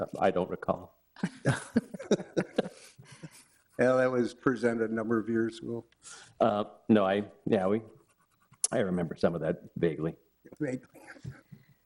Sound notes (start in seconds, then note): 1.2 laughter